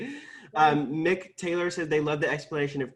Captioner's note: laughing